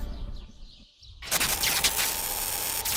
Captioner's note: electrical crackling